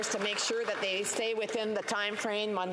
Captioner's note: applause